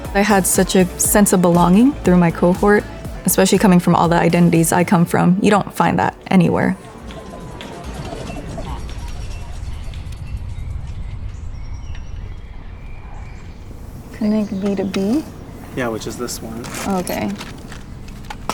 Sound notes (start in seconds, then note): 7.4 machines beeping; 11.8 birds chirping